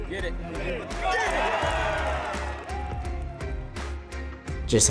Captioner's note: crowd cheering